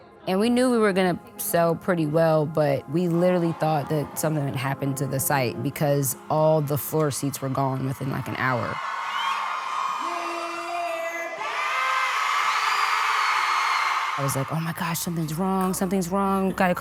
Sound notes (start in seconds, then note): 9.0 crowd cheering excitedly; 11.4 crowd joining in excitedly